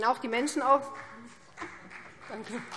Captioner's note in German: Vereinzelter Beifall BÜNDNIS 90/DIE GRÜNEN